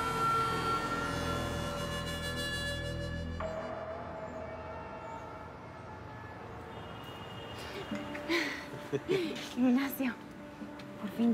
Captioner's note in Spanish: risas